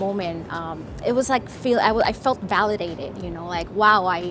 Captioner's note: fumbles over words